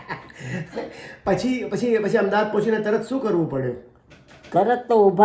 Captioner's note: laughter